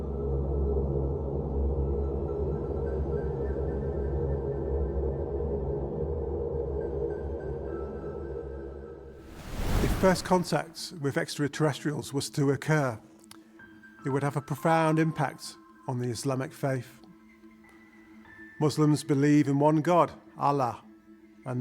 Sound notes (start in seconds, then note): 0.1 ominous music; 9.2 wind whooshing